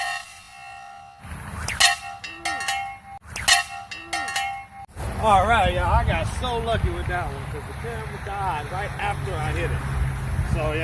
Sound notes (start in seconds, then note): 0.0 loud metal ringing; 1.3 sling whips; 3.2 loud metal ringing